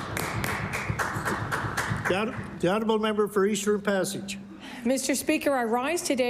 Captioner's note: applause